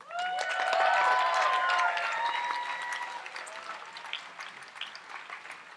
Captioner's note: audience applauds and cheers